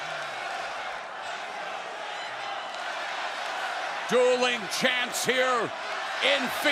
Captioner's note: fans chanting